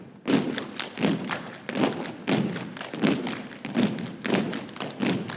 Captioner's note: rhythmic thumping and clapping